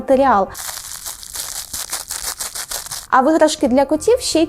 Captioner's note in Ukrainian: шелестіння